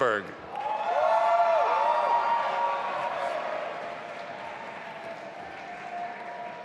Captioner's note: audience applauding and cheering